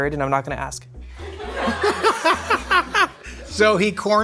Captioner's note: laughing